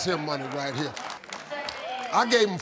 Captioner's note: audience applauding